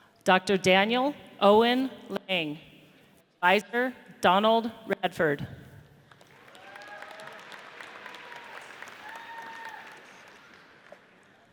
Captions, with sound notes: Dr. Daniel Owen Lang. Advisor, Donald Radford. (audience cheers)